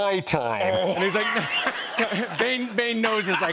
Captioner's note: laughter